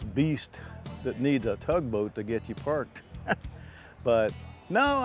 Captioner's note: laughs